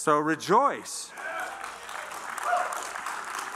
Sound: applause

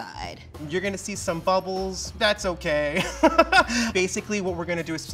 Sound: laughs

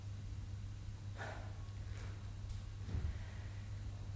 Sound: sighs

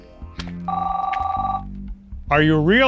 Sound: phone rings

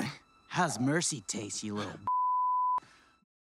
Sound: beep

